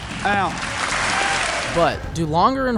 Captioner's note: applause